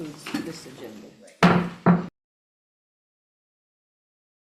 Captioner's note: gavel bangs